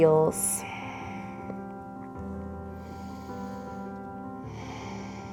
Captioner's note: deep breathing